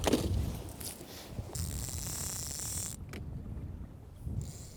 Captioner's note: line reeling